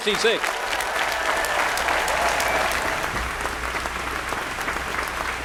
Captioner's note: applause